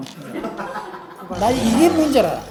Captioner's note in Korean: 웃음